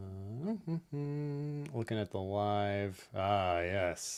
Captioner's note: hums